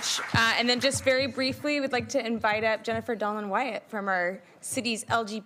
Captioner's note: applauding